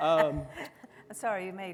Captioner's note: laughs softly